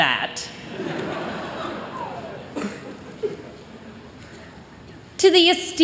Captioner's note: laughter